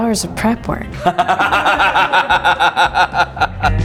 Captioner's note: laughing